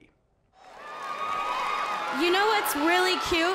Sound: audience cheering and clapping

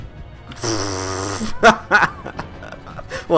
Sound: laughs

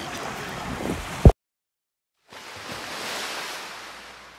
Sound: waves Crashing

